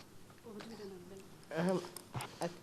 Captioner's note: background chatter